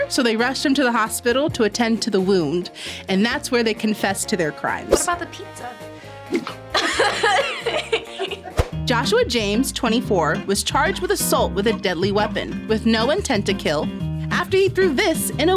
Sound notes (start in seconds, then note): 6.4 laughs